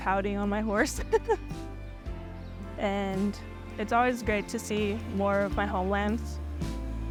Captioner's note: laugh